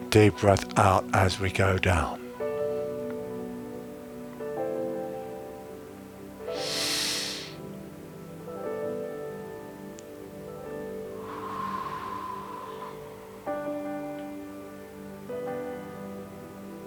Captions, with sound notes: Deep breath out as we go down. (inhaling and exhaling)